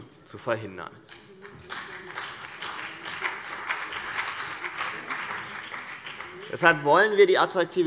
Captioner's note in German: Beifall BÜNDNIS 90/DIE GRÜNEN und vereinzelt CDU